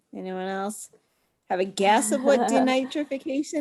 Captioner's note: laughs